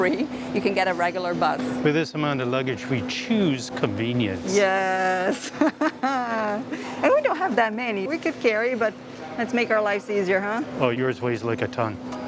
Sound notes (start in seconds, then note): 5.4 laughs